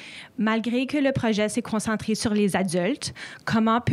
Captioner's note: speaks French